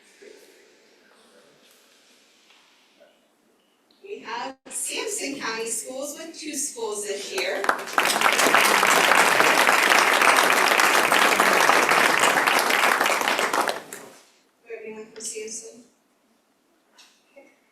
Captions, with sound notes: we have Sampson County schools with two schools this year. [Applause]